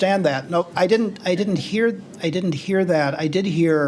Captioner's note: laughter